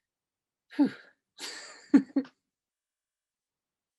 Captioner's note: laughs